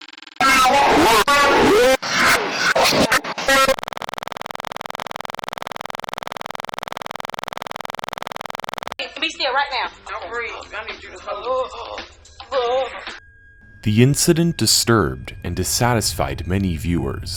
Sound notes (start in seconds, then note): 3.8 clicking noise; 12.3 groaning